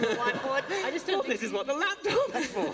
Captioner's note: laughter